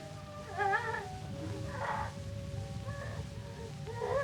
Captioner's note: cries